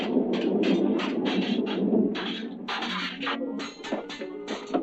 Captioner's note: dramatic orchestral music; swords clashing